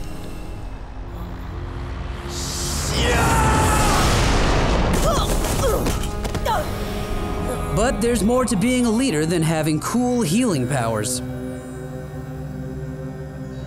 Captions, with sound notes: [screaming] [grunting] But there's more to being a leader than having cool healing powers.